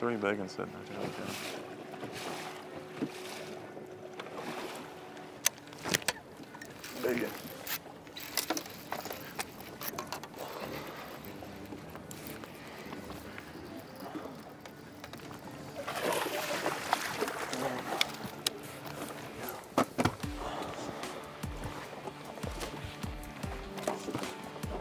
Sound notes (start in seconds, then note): 16.4 splashing; 21.9 dramatic music